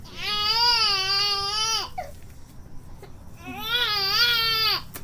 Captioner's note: baby crying